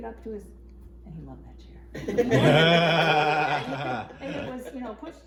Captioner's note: all laughing